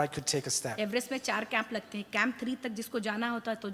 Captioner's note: speaks foreign language